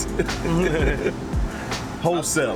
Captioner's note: laughs